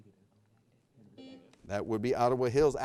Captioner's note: buzzer beeping